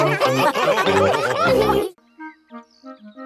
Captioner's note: all laughing